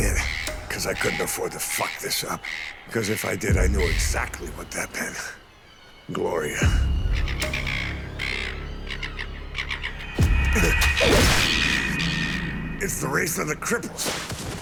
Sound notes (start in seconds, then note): 10.2 grunts; 10.2 seagull yelps, shrieks